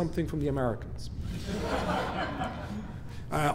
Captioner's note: laughing